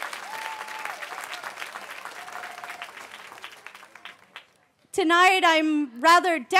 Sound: cheering

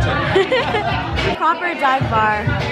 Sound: laughing

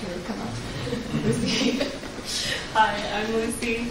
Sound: laughs

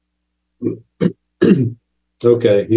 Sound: clears throat

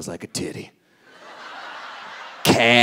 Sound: audience laughing

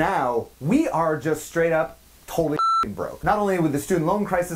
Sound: beep

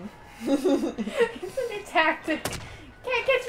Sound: laughing

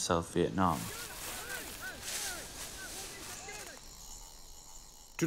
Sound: soldiers yelling

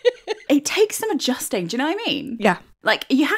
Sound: laughing

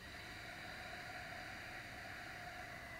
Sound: exhaling

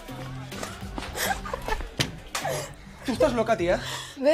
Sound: laughs

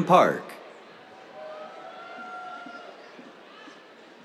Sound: cheers

